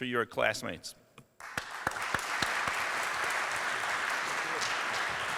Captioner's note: applause